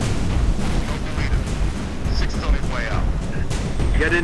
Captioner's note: radio